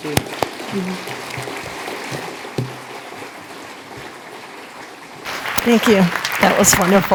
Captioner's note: applause